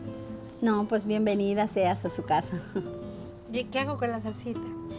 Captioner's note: speaking Spanish